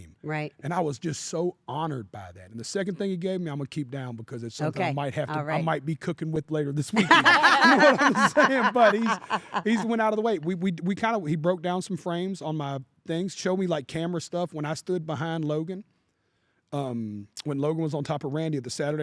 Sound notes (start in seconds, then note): 6.9 laugh